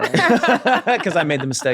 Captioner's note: everyone laughs